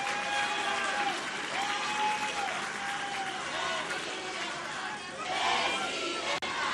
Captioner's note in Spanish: aplausos